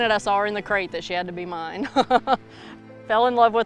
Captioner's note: laughs